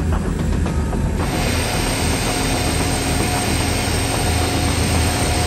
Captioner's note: plane engine whirring